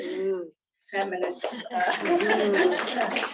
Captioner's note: applause